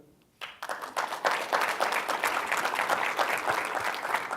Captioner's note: applause